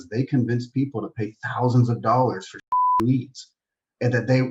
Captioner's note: beep